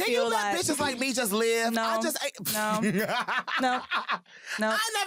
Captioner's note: laughs